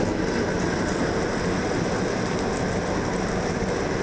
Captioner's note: lamb sizzling